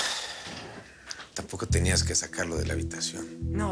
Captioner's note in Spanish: Saúl exhala